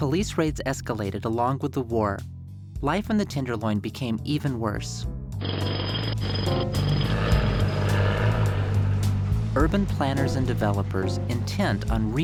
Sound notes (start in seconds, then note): 5.4 drilling Sounds; 7.7 trucks Sounds